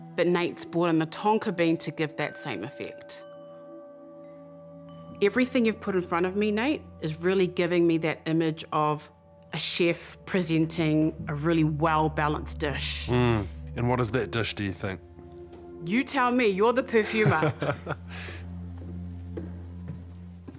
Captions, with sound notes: But Nate's brought in the tonka bean to give that same effect. Everything you've put in front of me, Nate, is really giving me that image of a chef presenting a really well-balanced dish. - Mm, and what is that dish, do you think? - You tell me. You're the perfumer. - (LAUGHS)